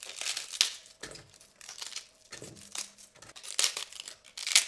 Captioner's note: sound of cabbage peeling